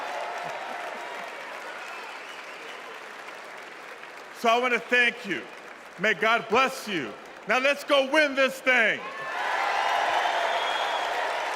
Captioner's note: cheers and applause